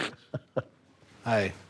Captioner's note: chuckles